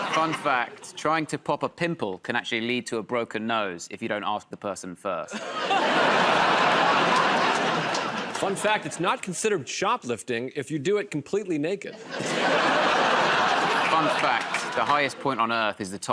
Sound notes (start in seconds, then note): 5.3 laughter and applause; 11.9 laughter